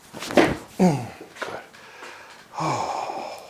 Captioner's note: spine cracks